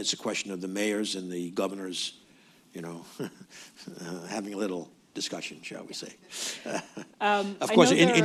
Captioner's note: laughs; laughter